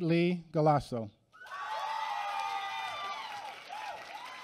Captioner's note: applause